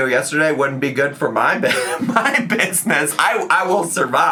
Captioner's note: laughs